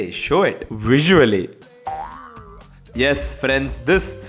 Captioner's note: toing